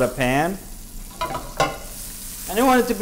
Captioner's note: sizzling